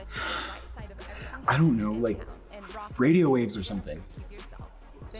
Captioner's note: sighs